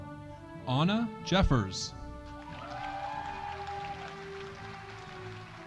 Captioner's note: audience applauding